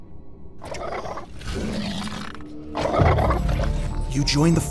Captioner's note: 2Bells growling